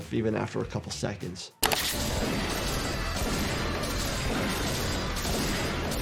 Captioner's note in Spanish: disparos, música intensa